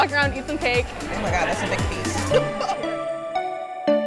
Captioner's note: laugh